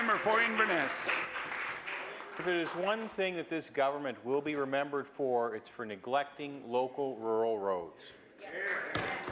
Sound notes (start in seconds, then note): 0.0 some applause